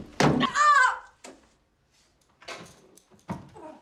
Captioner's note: grunting